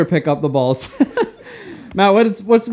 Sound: laughing

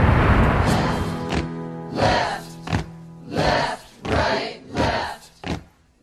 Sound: marching group

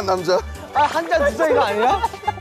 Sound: drinking

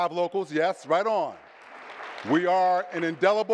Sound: audience clapping

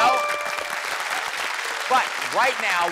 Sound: applause

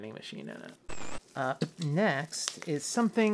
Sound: static

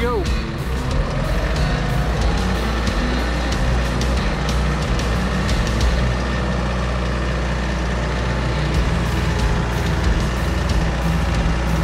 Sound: tractor Motor and Dramatic Music

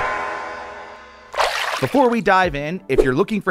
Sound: water splashing

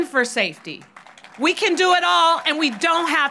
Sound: audience applauds

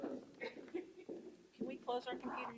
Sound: board member laughing

